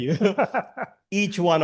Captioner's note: chuckles